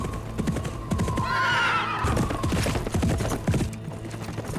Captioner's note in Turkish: At kişneme sesi